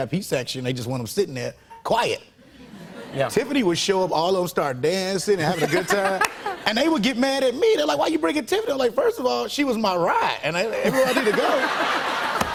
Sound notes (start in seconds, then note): 5.4 laughter; 10.8 laughter